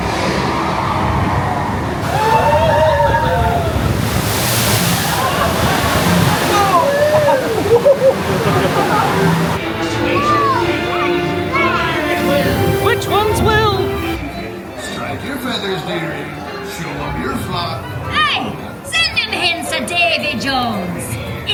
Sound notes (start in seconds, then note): 0.1 thunder crashes and rumbles; 4.1 wave spatters